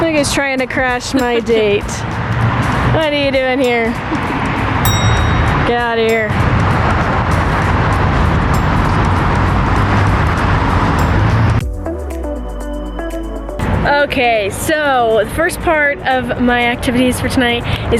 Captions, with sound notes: Look who's trying to crash my date. What are you doing here? (ding) Get out of here. (upbeat music) Okay, so. The first part of my activities for tonight